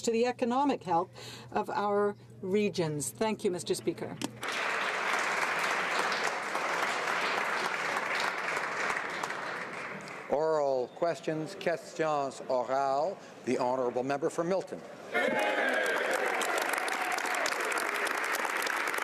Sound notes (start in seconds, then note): 9.1 some Applause; 15.3 speaking French; 18.4 some Applause